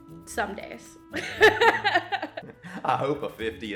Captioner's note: laughing